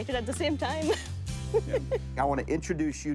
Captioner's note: laughing